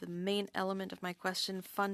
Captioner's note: speaking French